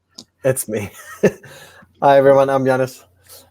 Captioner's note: chuckles